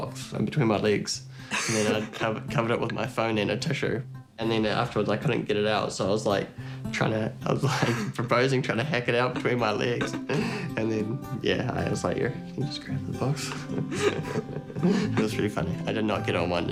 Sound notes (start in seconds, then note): 1.5 chuckles; 11.7 chuckles; 13.3 both chuckle